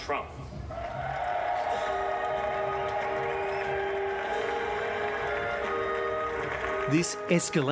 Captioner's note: cheering, applause